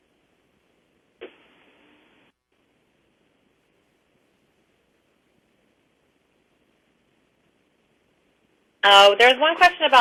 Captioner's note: pause